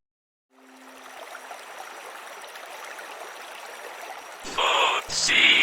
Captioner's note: sound of a stream flowing